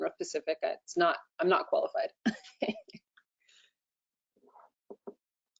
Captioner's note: chuckles